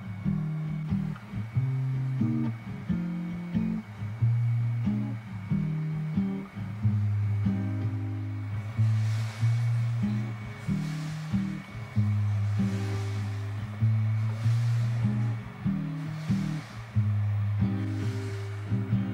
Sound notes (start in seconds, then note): 12.4 behind me is the sound of the washing machine